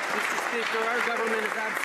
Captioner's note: some Applause